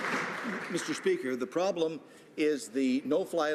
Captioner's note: some Applause